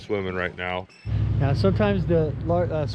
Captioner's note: boat engine running